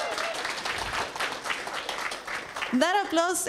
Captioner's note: applause